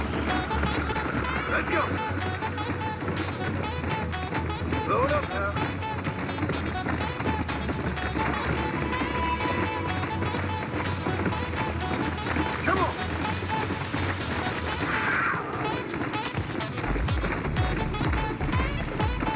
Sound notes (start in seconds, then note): 14.6 cougar-zombie screams